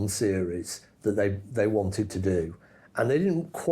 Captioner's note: none